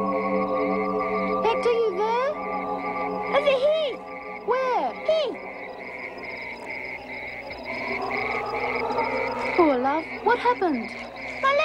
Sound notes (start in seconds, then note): 6.3 insects trilling